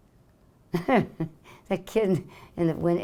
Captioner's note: laughing